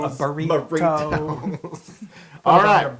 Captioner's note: laugh